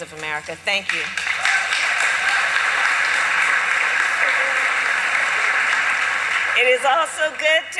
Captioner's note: applause